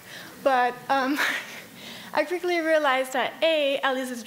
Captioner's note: laughs